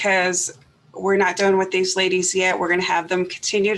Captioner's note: none